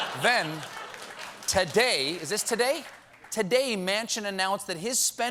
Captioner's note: laughter